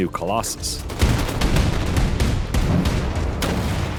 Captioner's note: explosion